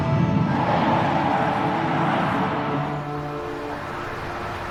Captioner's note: tires screeching